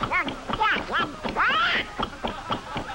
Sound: shouting; laughter

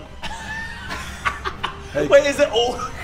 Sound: laughs

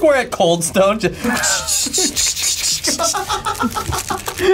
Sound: vocalizes scraping; laugh

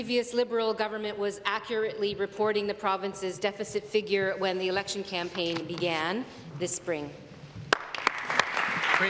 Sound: applause

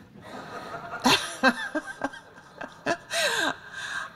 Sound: laughter

